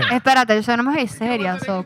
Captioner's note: speaking In Foreign Language